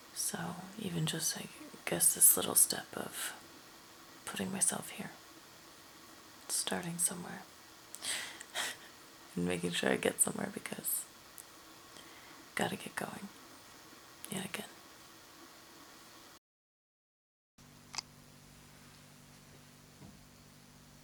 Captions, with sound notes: So, even just, I guess, this little step of putting myself here. Starting somewhere. *laughs* And making sure I get somewhere because gotta get going, yet again.